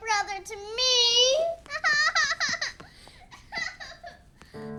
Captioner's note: crying